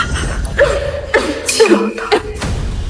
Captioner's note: coughing